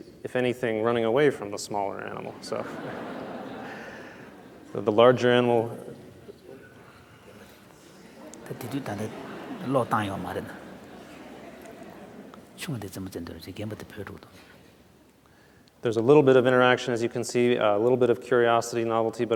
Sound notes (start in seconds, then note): 5.1 laughter; 7.9 laughter; 11.5 foreign Language